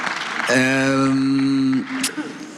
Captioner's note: applause